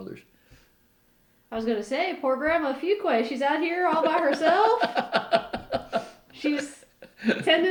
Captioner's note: laughter